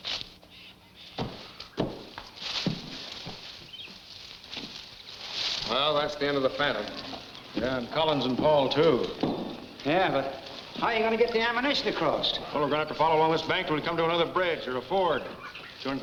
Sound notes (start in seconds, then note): 2.7 leaves rustle